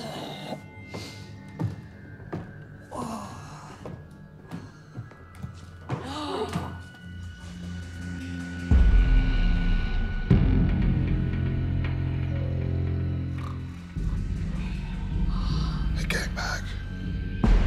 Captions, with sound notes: (Groans) (Groans then gasps) They came back.